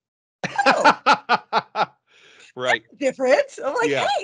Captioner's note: laughing